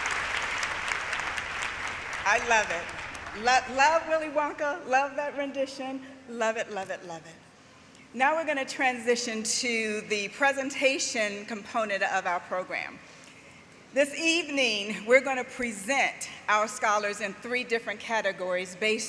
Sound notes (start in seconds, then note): 3.7 applause; 3.7 cheering